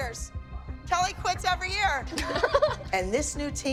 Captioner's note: laughing